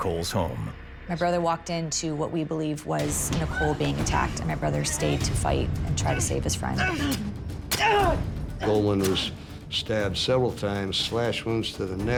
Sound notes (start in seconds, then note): 6.8 grunting